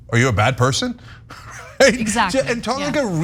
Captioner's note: laugh